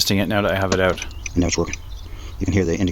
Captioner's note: door Locks make sound